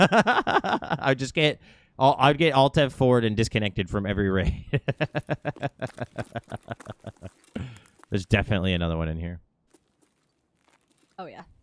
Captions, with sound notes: (laughs) I'd get Alt-F forward and disconnected from every raid. (laughs) There's definitely another one in here. - Oh, yeah.